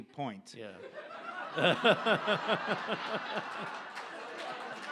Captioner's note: audience laughs